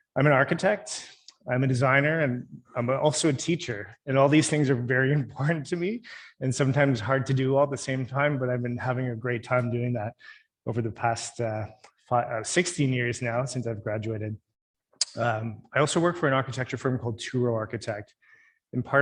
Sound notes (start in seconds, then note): none